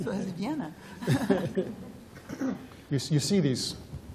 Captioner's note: laughs